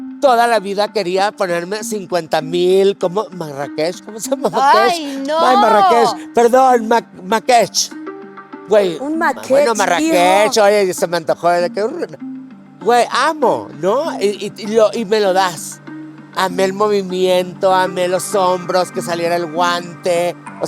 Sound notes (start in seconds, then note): 8.7 in a yucatecan accent